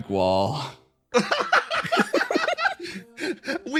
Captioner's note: laugh